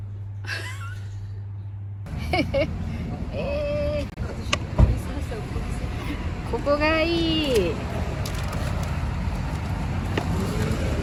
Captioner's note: laughs